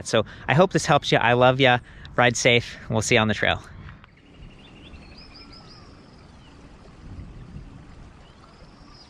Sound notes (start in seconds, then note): 5.0 birds chirping